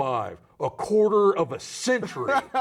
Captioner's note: laughing